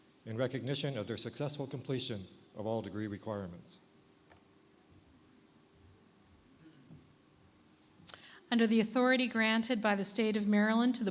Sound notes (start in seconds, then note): none